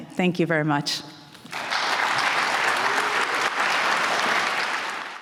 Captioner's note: applause